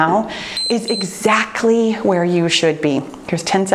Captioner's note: timer beeps